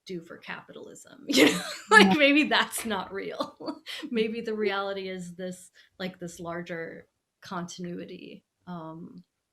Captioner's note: laughing